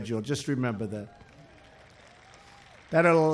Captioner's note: applause